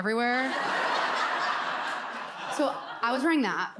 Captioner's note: audience laughs